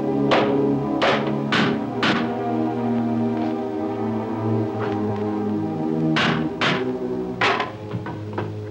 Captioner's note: hammer bangs